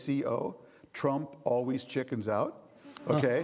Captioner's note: audience laughing